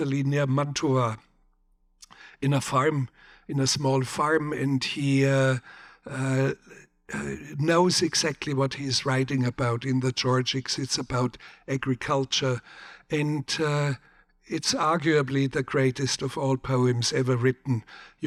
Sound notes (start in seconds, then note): none